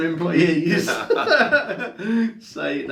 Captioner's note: laughing